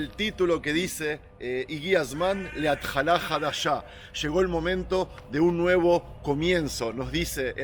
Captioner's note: Hebrew